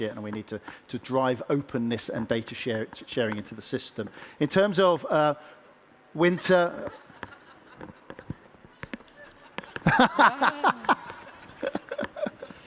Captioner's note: laughter